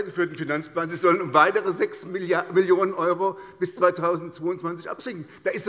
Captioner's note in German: none